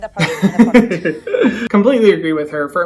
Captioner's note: laughs